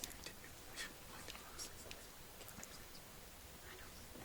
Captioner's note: contestants whisper